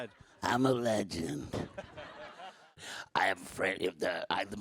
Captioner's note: audience laughs